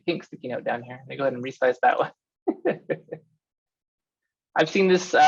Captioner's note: laughs